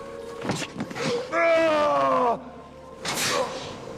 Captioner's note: yells